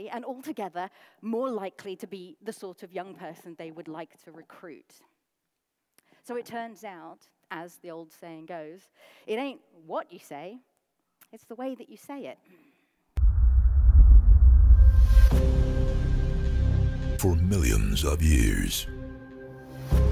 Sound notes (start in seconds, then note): 12.5 deep voice